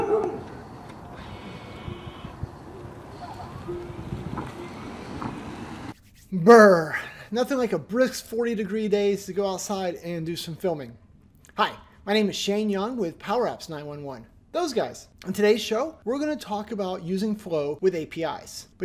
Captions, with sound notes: (dog barking) (engine rumbling) Brr! Nothing like a brisk 40-degree day to go outside and do some filming. Hi, my name is Shane Young with PowerApps911, those guys! On today's show we're gonna talk about using Flow with APIs.